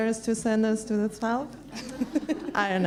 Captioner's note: laughs